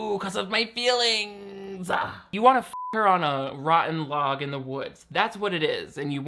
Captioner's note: beep